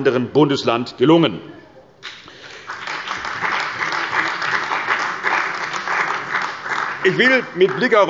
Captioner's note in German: Beifall bei der CDU und dem BÜNDNIS 90/DIE GRÜNEN